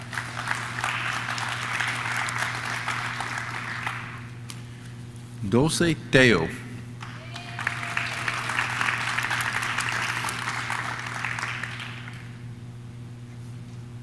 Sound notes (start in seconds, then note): 0.0 audience claps; 6.9 audience claps; 7.0 audience cheers